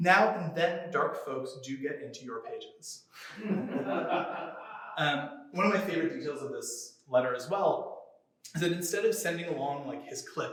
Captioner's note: laughter